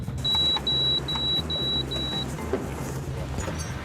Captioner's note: repeated beeps